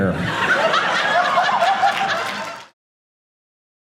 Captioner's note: audience laughing